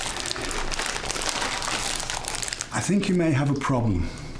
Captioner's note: crunching